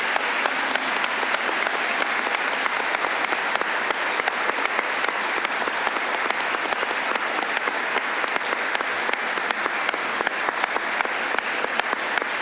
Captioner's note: applause